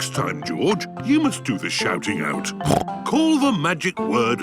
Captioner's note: snorts